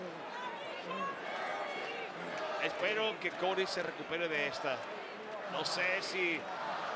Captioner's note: applause